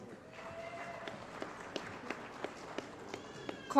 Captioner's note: applause